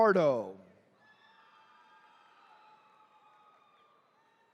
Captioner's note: attendees cheering